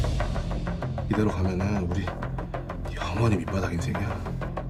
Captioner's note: upbeat dramatic music; foreign language